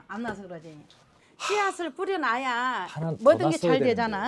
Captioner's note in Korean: 깊은 탄식